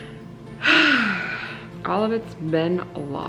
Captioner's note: sighs